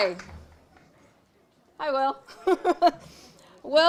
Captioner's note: laughing